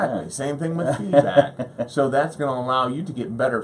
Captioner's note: laughs